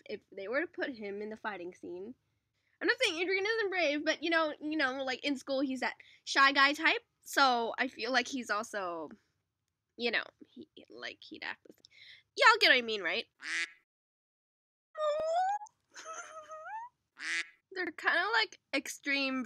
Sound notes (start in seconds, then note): 13.4 quack; 17.2 quack